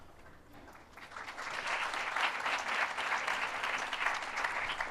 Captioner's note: applause